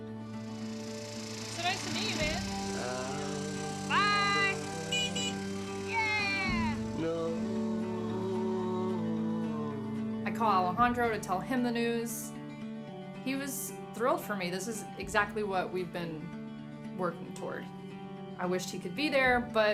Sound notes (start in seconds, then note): 3.8 engine roaring; 3.9 horn beeping